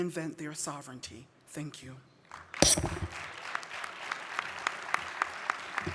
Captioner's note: audience applauding